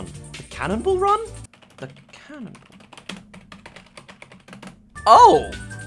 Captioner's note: typing